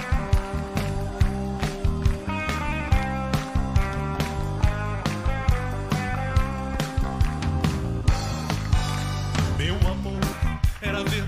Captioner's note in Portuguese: aplausos